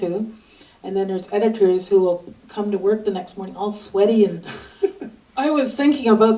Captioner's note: laughs